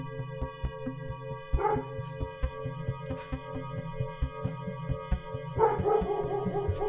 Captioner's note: dog barking outside